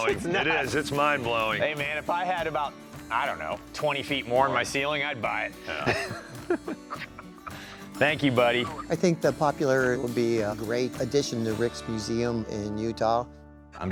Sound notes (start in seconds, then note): 5.6 laughs